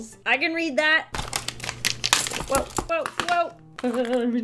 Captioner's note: packaging Rustles